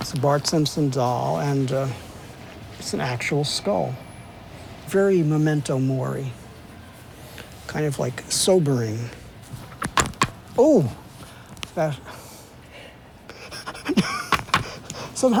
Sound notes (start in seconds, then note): 9.7 sound of breaking bone; 12.5 sound of breaking bone; 13.3 laughs